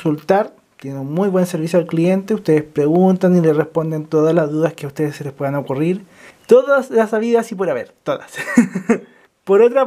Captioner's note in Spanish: risas